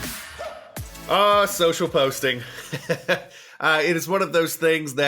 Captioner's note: laughs